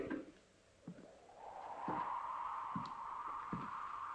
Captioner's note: wind blowing